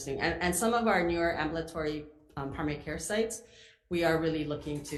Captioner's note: none